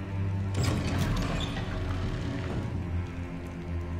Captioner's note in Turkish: Kapı sesi